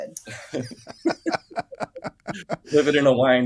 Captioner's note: laugh